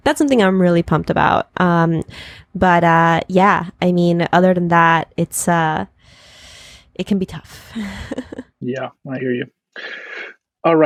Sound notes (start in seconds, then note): 7.7 laughs